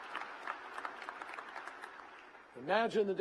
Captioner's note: applause